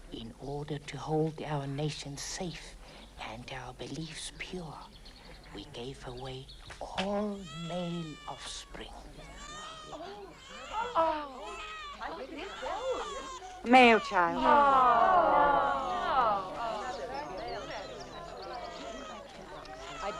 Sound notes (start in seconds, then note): 9.2 baby crying; 11.1 crowd murmuring; 14.6 crowd groans; 16.4 crowd chattering